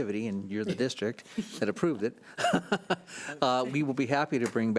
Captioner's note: laughs